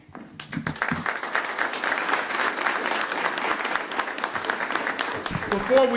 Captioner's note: applause